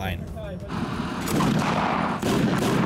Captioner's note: gunshots